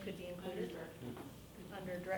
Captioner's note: woman mumbling